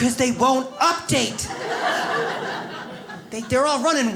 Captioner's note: audience laughs